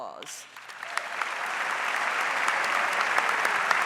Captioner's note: audience applauds